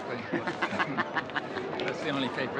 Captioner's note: man chuckling